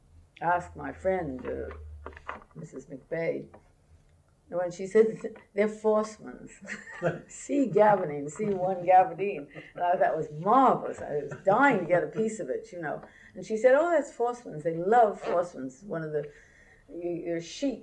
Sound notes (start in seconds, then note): 3.7 laughter